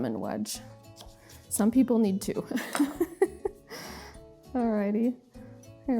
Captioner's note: laughs